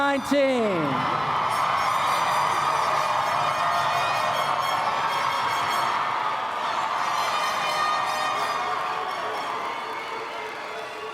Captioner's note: applause